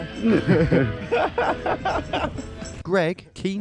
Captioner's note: laughing; both laughing